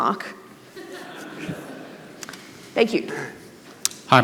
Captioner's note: audience laughing